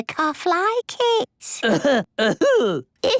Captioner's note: coughing